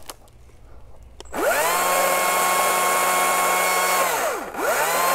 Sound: chainsaw

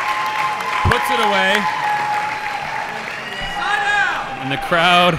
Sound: audience cheering

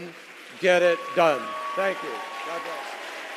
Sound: applause

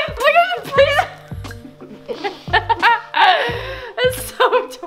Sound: laughs

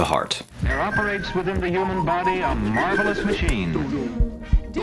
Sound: archival audio

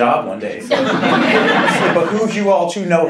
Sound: laughing

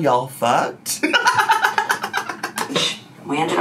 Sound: laughs

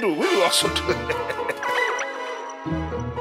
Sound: laughing

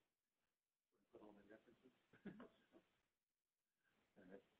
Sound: chuckles

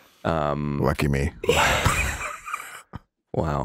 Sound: all chuckling

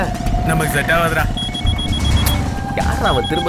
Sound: phone rings

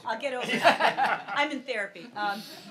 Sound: laughs

